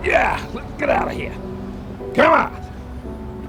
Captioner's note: grunts